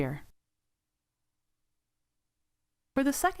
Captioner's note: silence